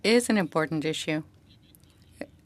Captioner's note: speaking French